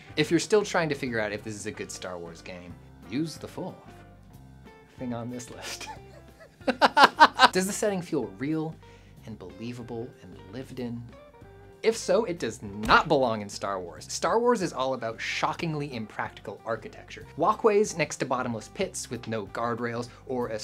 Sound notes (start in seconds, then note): 5.6 laughter